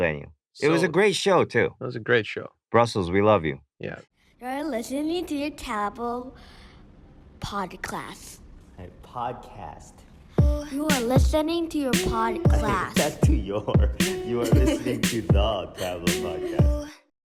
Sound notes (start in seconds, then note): 16.8 laughs